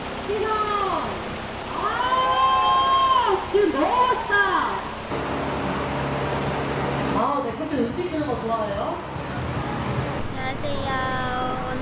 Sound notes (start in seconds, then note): 1.7 A cheer from the staff